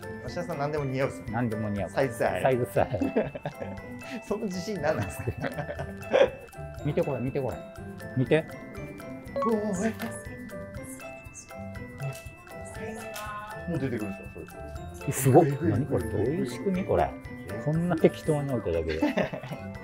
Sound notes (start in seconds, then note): 5.0 laughing